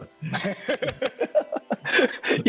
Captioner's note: laughing